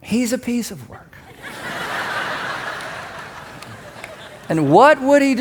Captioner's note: congregation laughs